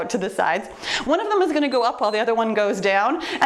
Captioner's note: timer beeps